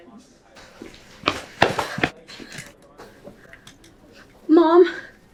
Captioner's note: children whispering and laughing in the background